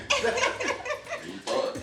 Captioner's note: all laughing